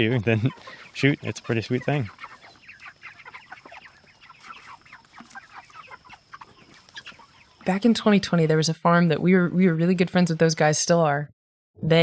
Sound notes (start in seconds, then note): 0.0 laughs; 2.5 chickens clucking